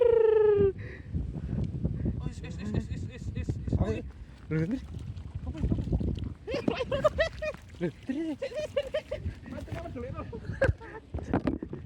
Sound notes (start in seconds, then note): 8.0 laughs